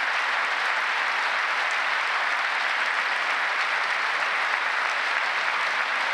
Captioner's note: applause